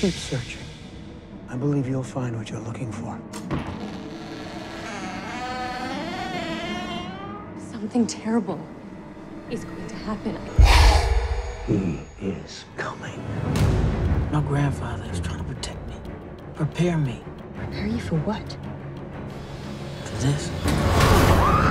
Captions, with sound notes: Keep searching. I believe you'll find what you're looking for. [creaking door] Something terrible... ...is going to happen. [growl] He. Is. Coming. My grandfather has taught me a technique. Prepare me. Prepare you for what? For this.